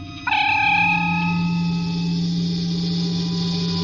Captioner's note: transporter beam-out whine